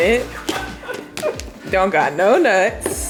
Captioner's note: laughing